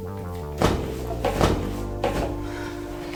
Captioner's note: loud sound of falling